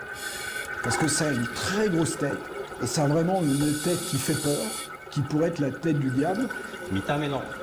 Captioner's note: French